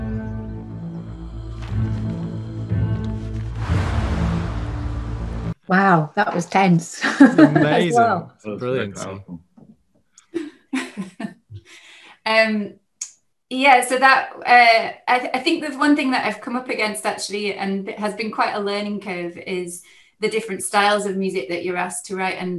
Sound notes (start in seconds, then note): 3.0 car engine roars; 3.1 pages rustling; 7.0 laughs; 10.3 chuckles